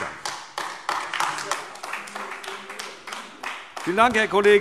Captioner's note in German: Beifall AfD